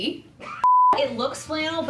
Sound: screen beep

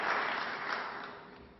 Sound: applause

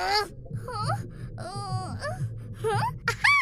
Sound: stomach growling 2.0

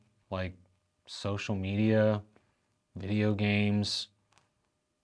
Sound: none

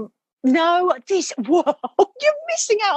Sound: laughing

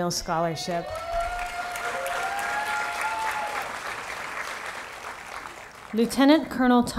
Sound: applause

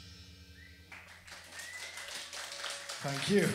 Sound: audience clapping

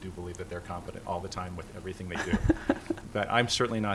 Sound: laughter

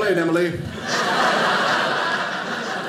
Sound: audience laughing

